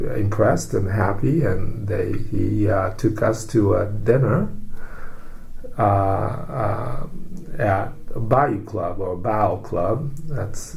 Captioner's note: with a drawl